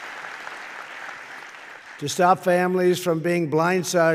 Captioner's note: applause